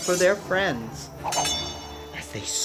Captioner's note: swords clash